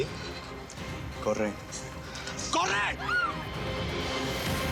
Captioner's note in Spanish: gritos